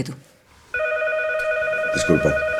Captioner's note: telephone sounds